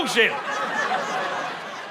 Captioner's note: laughter